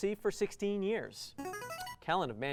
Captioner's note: buzzer